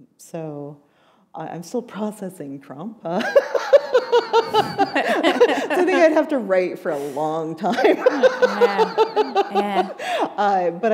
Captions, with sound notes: I'm still processing Trump. [laughter] So I think I'd have to write for a long time. [laughter] Yeah, yeah.